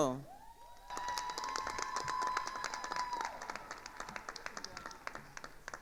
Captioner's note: attendees cheering and applauding